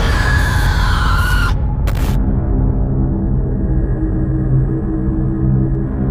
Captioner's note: ominous music; screeching; ominous music